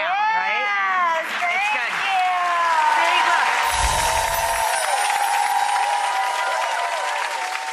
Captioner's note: audience cheers